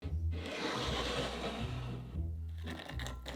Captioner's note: cup sliding